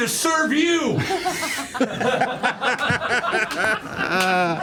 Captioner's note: laughter